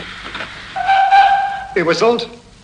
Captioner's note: train whistle